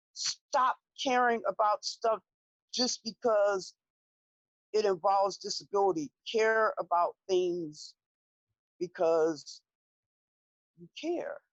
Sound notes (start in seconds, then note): none